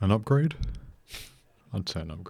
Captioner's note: sniggers